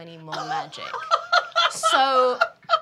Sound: laughing

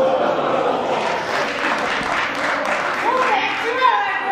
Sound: clapping

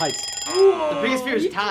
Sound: buzzer; timer ringing; laughs

